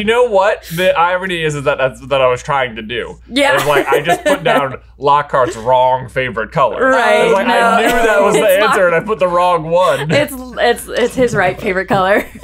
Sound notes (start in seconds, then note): 3.4 laughs